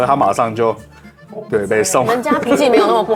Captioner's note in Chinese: 哈哈